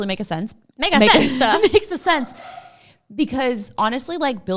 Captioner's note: laughs